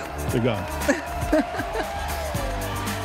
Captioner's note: laughs